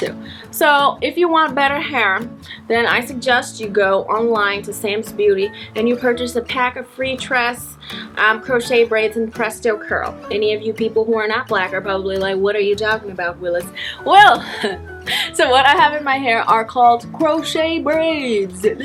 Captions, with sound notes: So if you want better hair then I suggest you go online to Sam's Beauty and you purchase a pack of free tress Um, crochet braids and presto curl Any of you people who are not black are probably like "What are you talking about Willis?" Well- (laughs) So what I have in my hair are called crochet braids